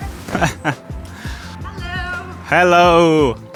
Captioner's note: in English